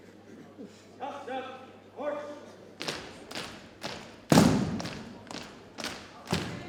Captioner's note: rhythmic thumping